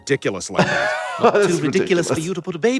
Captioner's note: laughs